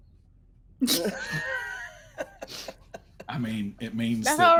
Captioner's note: people laughing